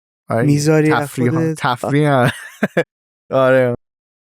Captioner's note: laughs